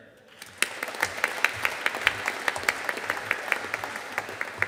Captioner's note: audience applauding